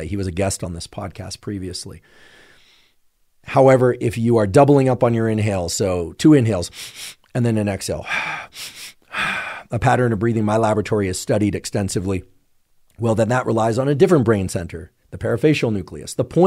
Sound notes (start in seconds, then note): 8.0 exhales; 8.0 inhaling